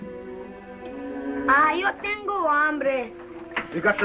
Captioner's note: Spanish spoken audio